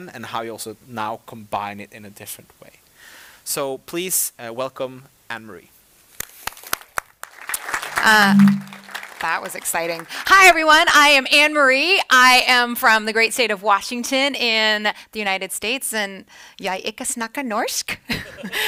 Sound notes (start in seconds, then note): 6.5 audience applauds; 8.0 microphone feedback echoes; 17.8 laughing